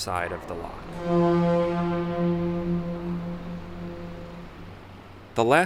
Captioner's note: horn blasts